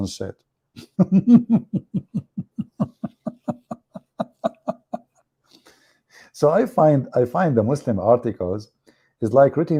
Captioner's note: Ketawa